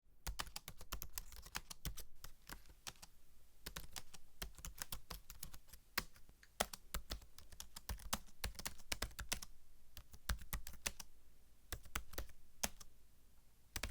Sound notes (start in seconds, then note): 0.0 typing